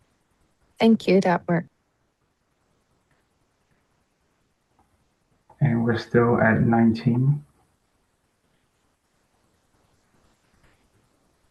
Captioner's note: pause